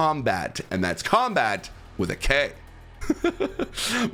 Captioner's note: laugh